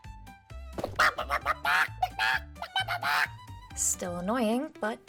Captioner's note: chicken noises